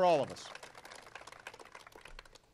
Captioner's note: applause